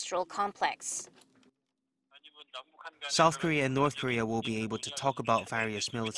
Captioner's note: Korean